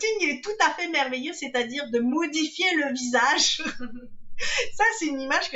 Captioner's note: laughs